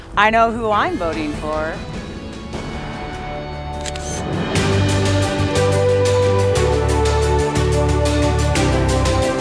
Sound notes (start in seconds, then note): 3.7 camera flashes; 5.0 inspirational instrumental music